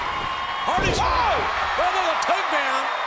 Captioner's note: bodies thud